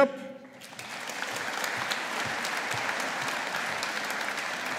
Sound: audience applauding

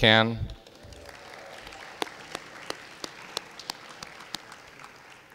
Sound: audience applauding

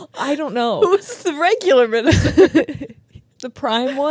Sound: chuckles

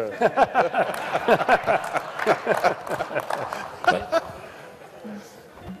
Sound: laughter

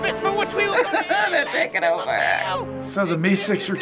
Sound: laughs

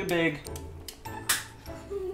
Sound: eggshell hits the floor behind them

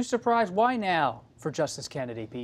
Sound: none

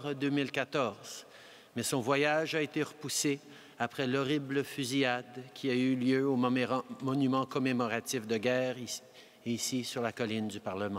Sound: speaking french

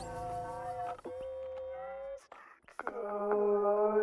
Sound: loudspeaker distortion

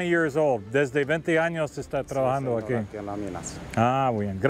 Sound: both speaking Spanish

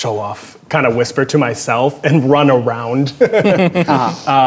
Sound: laughs

